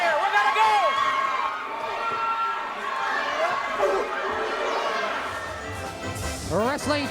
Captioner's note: audience cheers; jaunty music